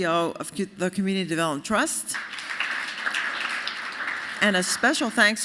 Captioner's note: applause